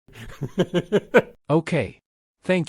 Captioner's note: laughs